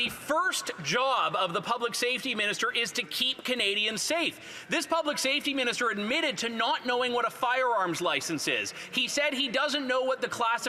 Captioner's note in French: voix de l'interprète